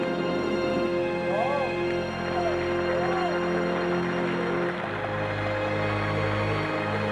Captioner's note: applauding